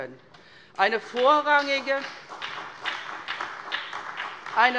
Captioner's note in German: Beifall bei der SPD